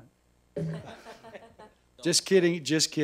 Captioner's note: laughing